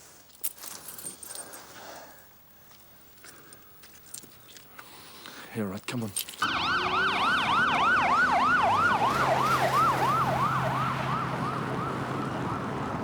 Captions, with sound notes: (keys jingling) - Yeah, all right, come on. (sirens wailing) (car engine revving)